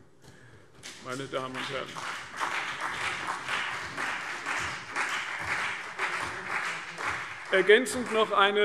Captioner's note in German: Vereinzelter Beifall CDU und BÜNDNIS 90/DIE GRÜNEN